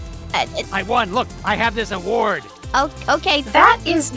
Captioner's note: none